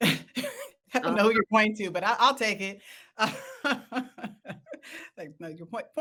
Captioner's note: laughs